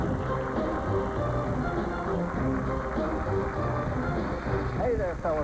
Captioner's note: cheers and applause